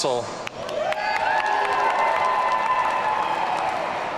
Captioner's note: audience cheering